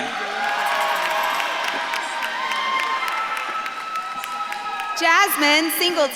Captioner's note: audience claps and cheers